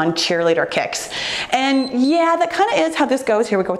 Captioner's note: timer beeps